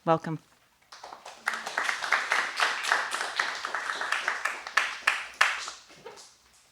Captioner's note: applause